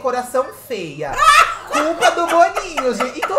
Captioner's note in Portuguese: gargalha